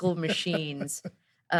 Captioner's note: laughs